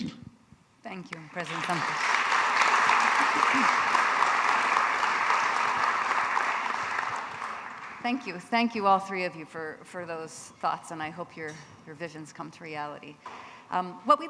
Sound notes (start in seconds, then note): 1.2 audience applauding